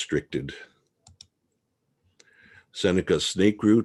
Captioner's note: mouse clicking